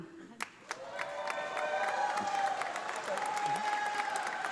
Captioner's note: audience applauding